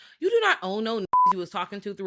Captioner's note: beep